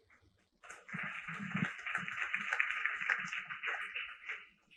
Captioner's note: applause